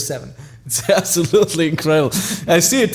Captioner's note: laughing